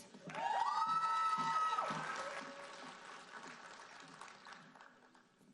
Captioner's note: audience cheering and applauding